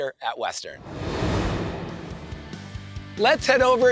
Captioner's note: transition whooshes